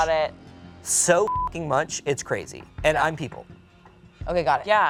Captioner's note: beep